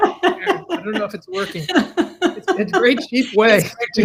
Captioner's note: laughs